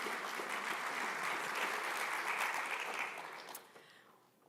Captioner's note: applause